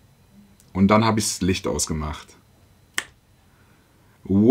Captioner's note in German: click